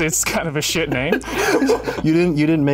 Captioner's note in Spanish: ríe